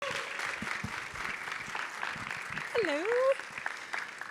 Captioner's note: audience applause